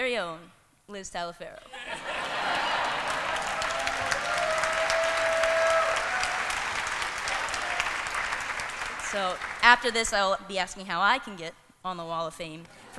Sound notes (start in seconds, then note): 1.7 laughter; 1.8 cheering